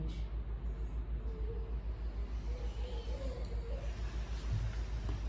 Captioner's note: inhale; exhale